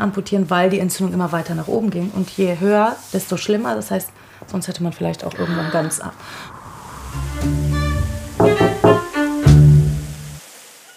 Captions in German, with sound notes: Da muss man schon amputieren, weil die Entzündung immer weiter nach oben ging. Sonst hätte man irgendwann ganz ab. (Ernste Musik) (Klopfen, Musik stoppt.)